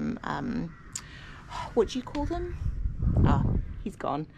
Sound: sighs

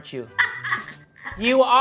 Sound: laughing

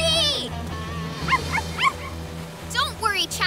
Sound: barking

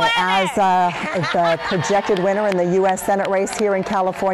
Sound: applause

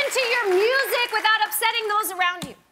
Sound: cheers and applause

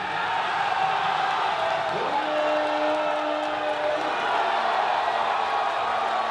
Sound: applause

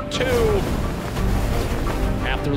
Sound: air swooshing

